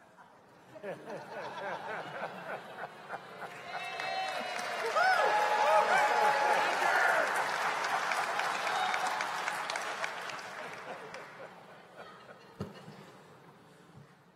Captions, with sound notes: as the policy statement we just passed at this Assembly regarding interfaith relationships? >> Pastor Willer? [ Laughter ] [ Cheers and Applause ] Yay!